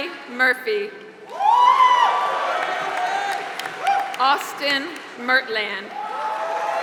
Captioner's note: applause